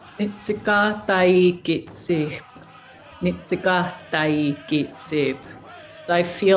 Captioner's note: speaker speaking in Native American language